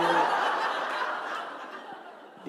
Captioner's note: laughter